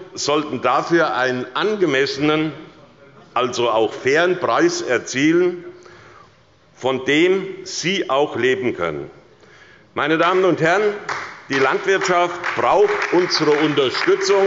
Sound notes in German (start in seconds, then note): 8.7 Beifall bei Abgeordneten der SPD und bei der LINKEN